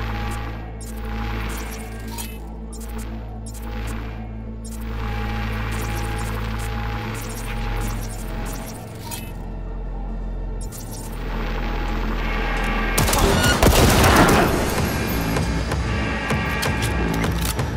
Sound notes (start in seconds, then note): 7.7 dramatic music; 13.0 gun firing; 17.5 dramatic music